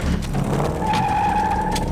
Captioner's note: tires squeal